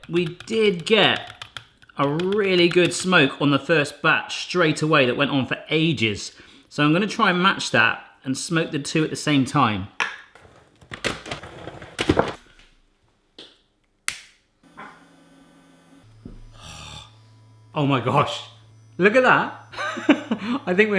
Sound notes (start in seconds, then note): 10.3 banging; 14.1 lighter clicking; 15.0 Smoking Gun buzzing; 19.7 laughing